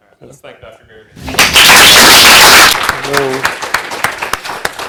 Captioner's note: loud applause